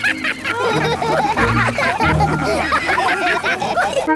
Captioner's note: all laugh